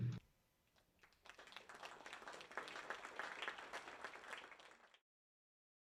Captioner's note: audience applauds